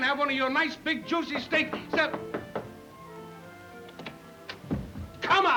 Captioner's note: door knocking